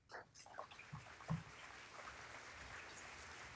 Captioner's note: applause